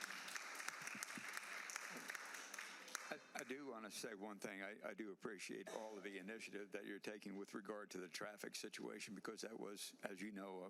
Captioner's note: applause